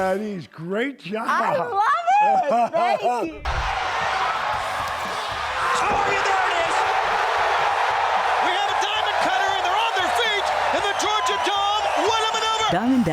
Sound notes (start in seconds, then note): 1.3 laughing; 3.9 crowd cheering